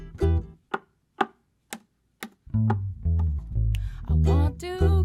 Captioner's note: knock knock slap slap knock knock snap